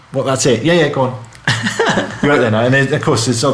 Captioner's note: laughing